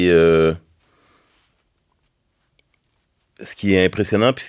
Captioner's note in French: silence